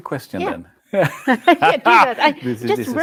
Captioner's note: laughter